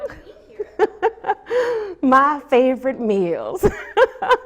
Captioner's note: laughs